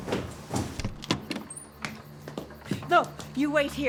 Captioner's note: footsteps plodding; crickets chirping; door clattering